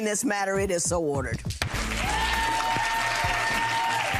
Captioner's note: applause